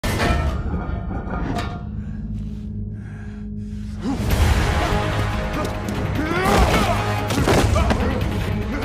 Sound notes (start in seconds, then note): 0.0 metal clanking; 1.9 heavy breathing; 4.9 suspenseful music; 6.5 grunting